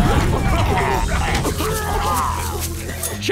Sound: coughing

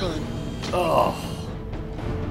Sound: groan

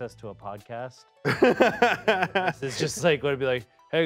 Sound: laughs

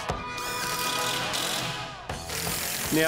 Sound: drill

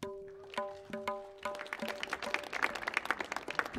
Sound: audience claps

